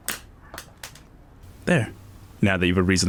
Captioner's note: pencil clatters